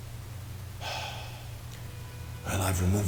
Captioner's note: sighs